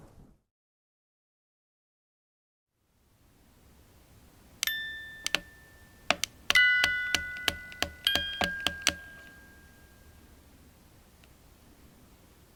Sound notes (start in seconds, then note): 4.6 gentle tune; 5.9 doll clicks